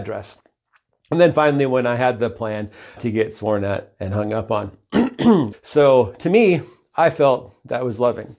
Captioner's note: clears throat and cough